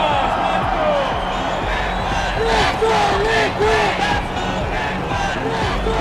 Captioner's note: crowd chanting